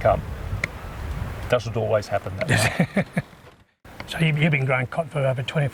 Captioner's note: laugh